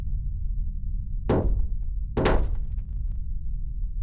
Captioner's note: banging